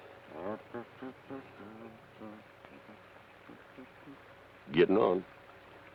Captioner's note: Carney hums melodically